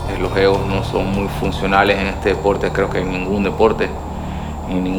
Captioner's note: speaking Spanish